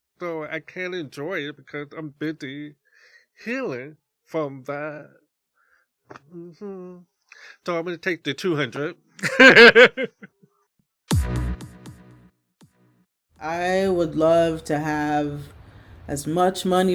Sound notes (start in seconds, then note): 9.2 big belly laugh; 11.1 techno music break